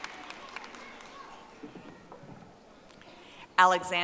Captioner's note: audience applauding